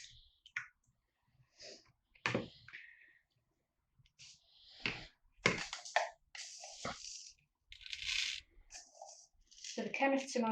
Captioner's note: stirring and pouring